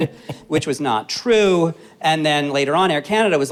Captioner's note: chuckles